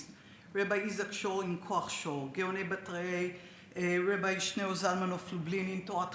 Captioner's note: speaks Hebrew